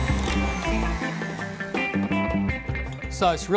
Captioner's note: mixer whirring stops